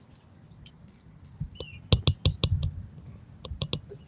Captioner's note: birds chirping